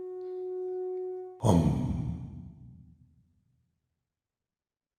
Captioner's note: gasp